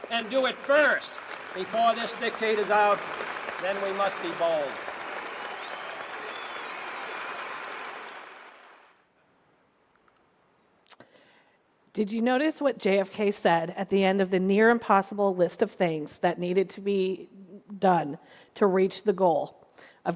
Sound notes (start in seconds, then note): 5.1 audience cheering and applauding